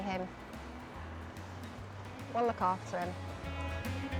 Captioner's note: none